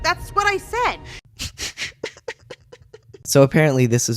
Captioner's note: laughter